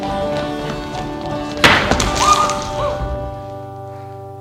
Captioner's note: laughing and dancing; glass shatters, song ends